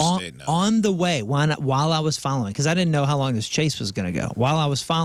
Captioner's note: none